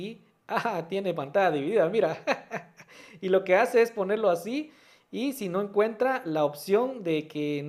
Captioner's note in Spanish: risas